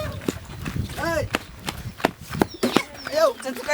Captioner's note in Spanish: zapateo